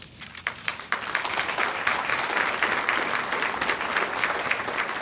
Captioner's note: audience applauds